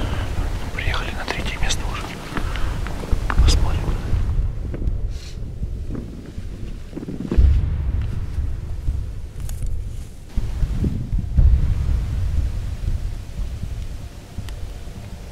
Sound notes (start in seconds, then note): 0.7 whispers